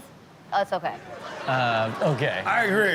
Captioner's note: audience laughs